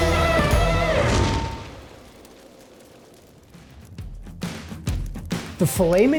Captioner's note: fire crackling; exciting music